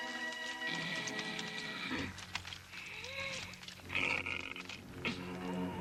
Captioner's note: Qahhar grunting; dramatic music